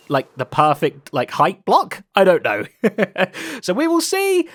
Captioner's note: laughs